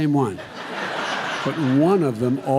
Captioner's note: laughter